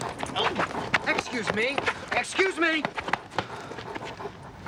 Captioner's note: groans